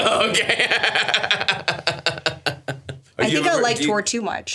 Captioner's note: Stavros laughs